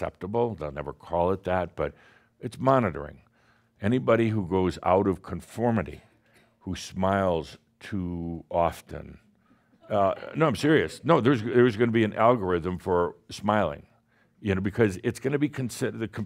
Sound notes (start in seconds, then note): 8.6 someone scoffs